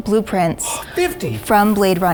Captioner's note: gasps